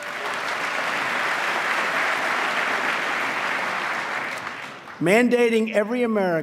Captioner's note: applause